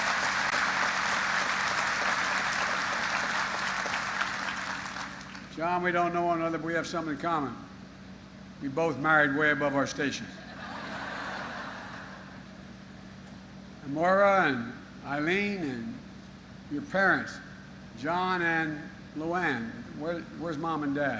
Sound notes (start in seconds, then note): 5.7 applause